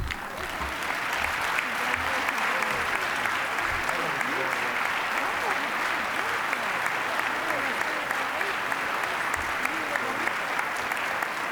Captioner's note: applause